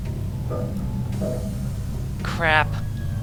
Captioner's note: elevator noises